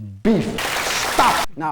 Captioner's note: audience applause